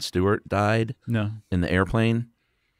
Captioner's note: voiceover